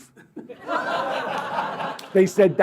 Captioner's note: laughter